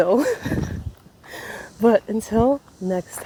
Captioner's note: laughs in exhaustion